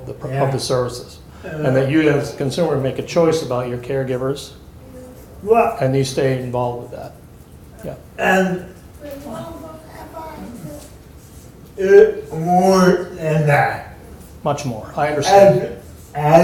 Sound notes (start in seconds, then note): 8.1 murmurs